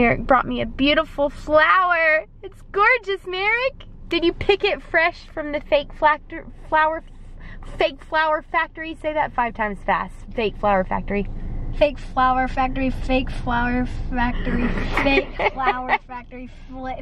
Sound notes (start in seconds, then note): 6.6 stuttering